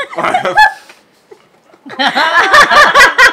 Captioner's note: laughs